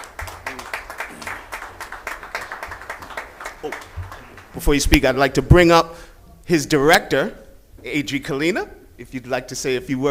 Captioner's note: applause